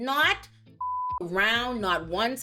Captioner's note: beep